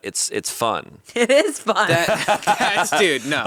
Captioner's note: all laughing